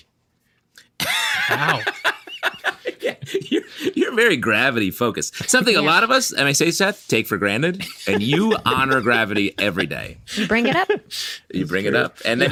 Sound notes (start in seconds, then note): 1.0 laughing